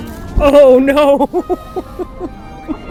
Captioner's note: laughs